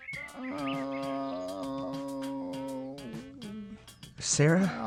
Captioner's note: groans